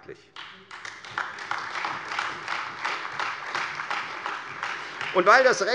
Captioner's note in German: Beifall Freie Demokraten und AfD